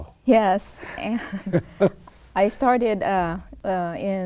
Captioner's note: laughter